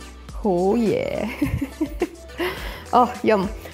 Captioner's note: chuckles